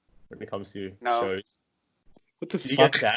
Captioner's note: coldly